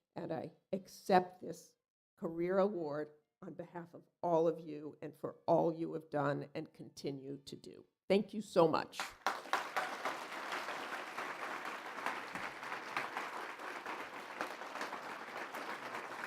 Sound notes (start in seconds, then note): 9.0 applause